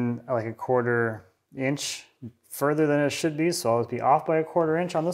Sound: none

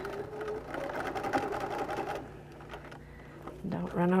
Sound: machine running

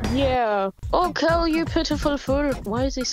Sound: with a Scottish accent

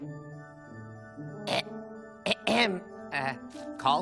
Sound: clearing throat

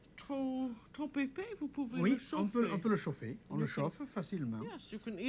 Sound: speaking French

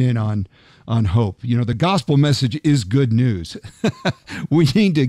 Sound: laughs

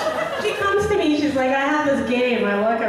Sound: audience laughing; voiceover

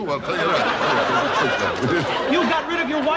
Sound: laughing

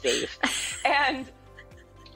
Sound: laughing

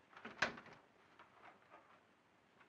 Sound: door closes

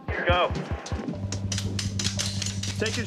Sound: gunfire

